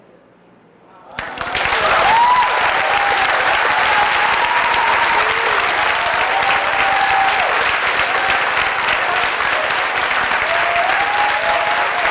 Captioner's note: applause